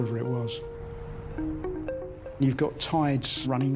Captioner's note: eerie music; water trickles